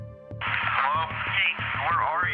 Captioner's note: on phone